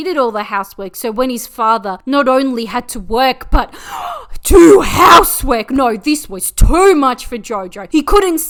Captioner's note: gasp